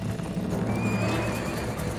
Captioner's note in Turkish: At kişniyor